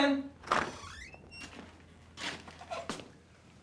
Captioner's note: door creaking